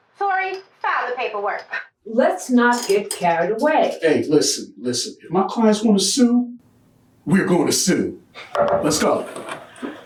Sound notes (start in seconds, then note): 8.4 knocks on table